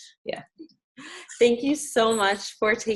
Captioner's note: laughing